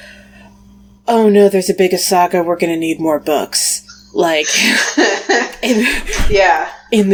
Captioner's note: laughs